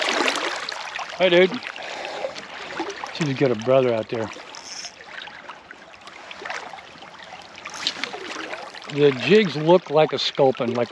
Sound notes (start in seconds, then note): 0.0 fish splashing; 7.6 reel spinning